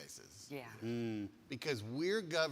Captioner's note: humming